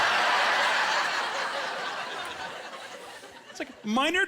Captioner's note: laughing